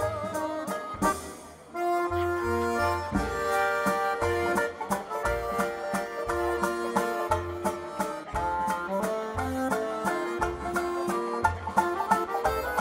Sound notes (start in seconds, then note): none